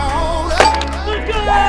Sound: chime dings

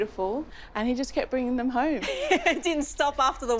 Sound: laughs

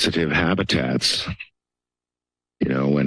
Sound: pause

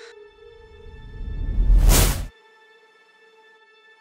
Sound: whooshes

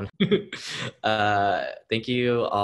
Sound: host laughing

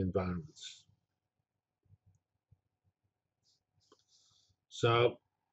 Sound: pause

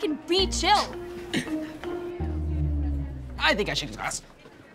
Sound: Eggie laughs

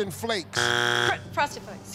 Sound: buzzer

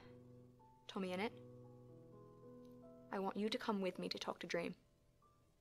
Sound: a deep breath

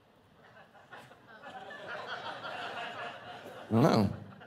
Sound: congregation laughing

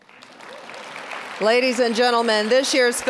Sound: applause

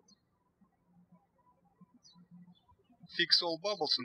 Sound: birds chirping

